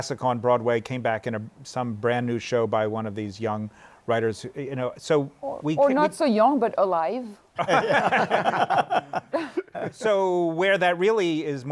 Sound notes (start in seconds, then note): 7.6 laughter